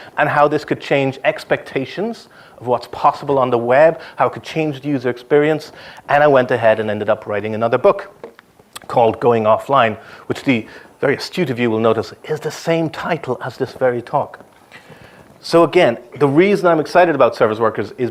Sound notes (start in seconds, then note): none